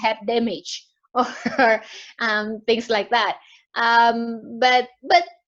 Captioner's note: laughs